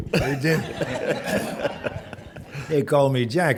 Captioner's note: chuckling